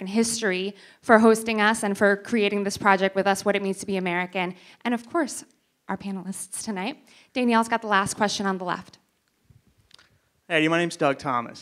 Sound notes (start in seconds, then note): none